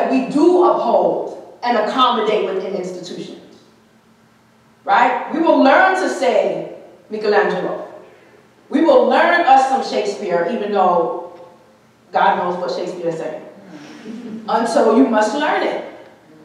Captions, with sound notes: that we do uphold and accommodate within institutions, right? We will learn to say, Michelangelo, we will learn us some Shakespeare even though God knows what Shakespeare said. (audience chuckling) And so you must learn it.